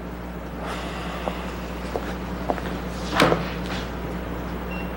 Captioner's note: sighing